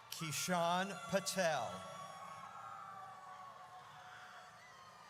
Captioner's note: audience cheers